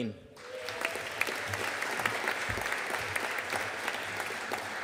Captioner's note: audience applauding